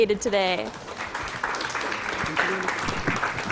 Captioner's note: applause